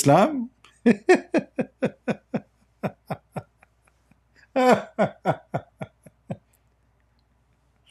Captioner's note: Ketawa